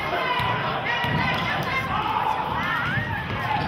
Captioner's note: yelling